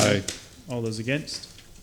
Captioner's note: laughs